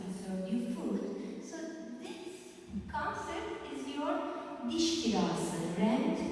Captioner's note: non-english speech